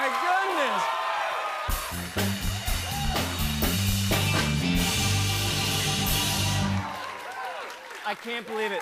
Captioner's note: cheers and applause